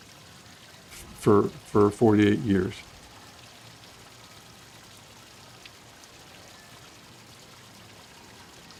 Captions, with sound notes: for 48 years. (fountain splashing)